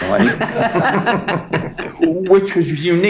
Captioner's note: all laughing